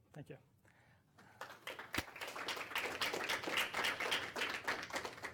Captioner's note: applause